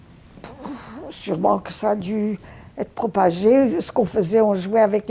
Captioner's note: sighing